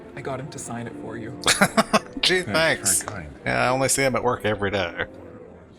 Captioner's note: laughing